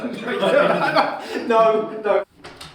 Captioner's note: laughter